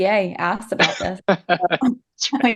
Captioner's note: laughs